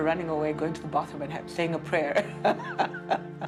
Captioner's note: chuckles